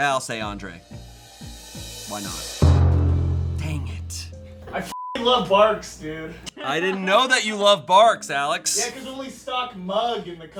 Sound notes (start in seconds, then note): 2.6 thud booms